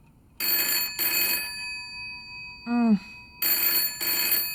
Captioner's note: phone rings